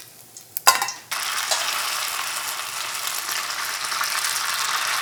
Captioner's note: oil bubbling